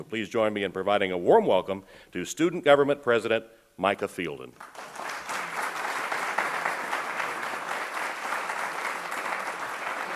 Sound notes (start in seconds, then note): 4.5 applause